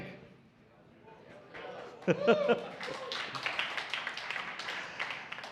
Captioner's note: audience applauds